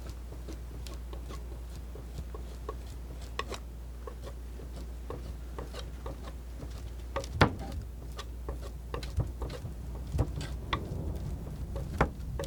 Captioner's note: scratching